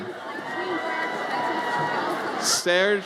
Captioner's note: audience cheers